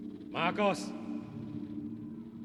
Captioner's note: distant voice